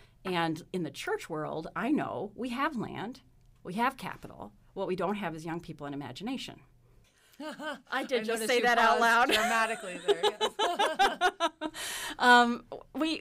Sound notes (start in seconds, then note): 7.4 laughs; 9.2 laughs